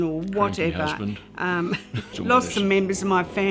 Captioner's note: laugh